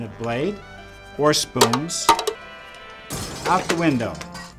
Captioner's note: bangs spoon; window breaks